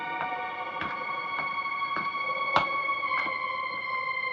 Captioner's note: footsteps